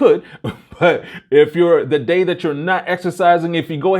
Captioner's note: chuckles